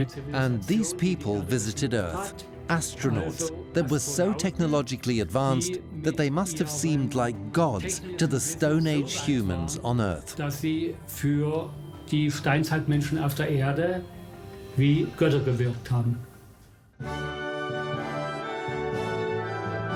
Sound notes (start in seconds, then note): 0.0 speaks in German; 10.3 speaks in German; 17.0 orchestra plays